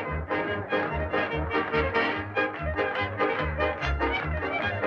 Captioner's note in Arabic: موسيقى مبهجة; الزبائن يصفقون